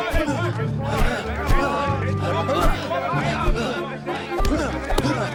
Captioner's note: panting, grunting